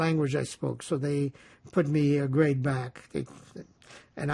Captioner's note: laughing